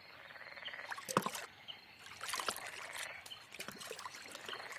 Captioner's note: water splashes